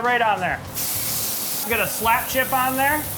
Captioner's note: sizzling